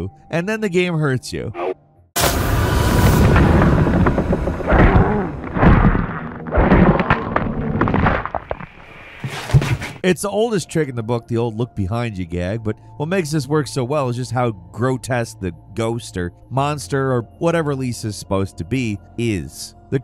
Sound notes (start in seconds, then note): 2.1 tense music; 4.8 Lisa groans; 7.2 tense music